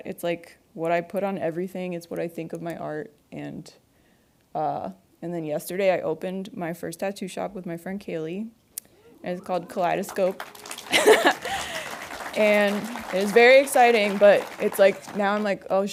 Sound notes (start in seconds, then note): 9.4 audience applauds